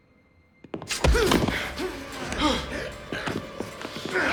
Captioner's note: grunting